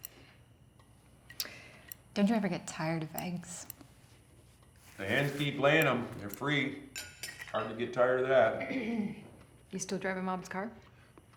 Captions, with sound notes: DON'T YOU EVER GET TIRED OF EGGS? THE HENS KEEP LAYIN' EM; THEY'RE FREE. IT'S HARD TO GET TIRED OF THAT. [CLEARS THROAT] YOU STILL DRIVING MOM'S CAR?